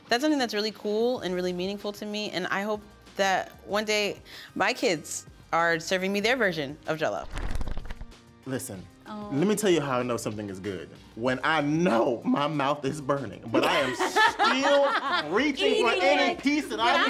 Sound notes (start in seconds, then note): 7.2 pages fluttering; 13.5 all laughing